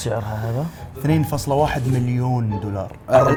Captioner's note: laugh